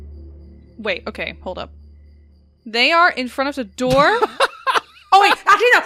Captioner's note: laughs